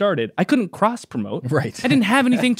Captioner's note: laughs